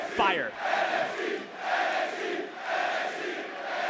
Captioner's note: crowd chants